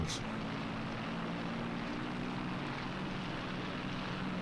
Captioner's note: engine whirs